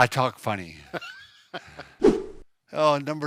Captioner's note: laughing